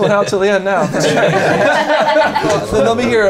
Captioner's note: laughing